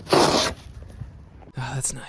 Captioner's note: scraping